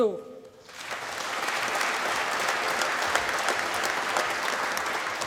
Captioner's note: applause